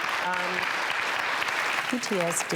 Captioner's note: applauding